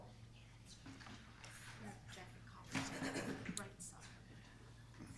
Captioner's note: people murmuring